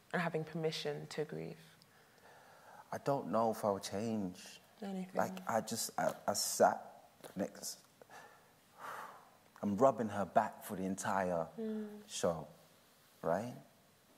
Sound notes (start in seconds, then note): 8.7 breathes